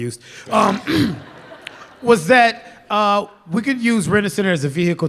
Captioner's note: laughter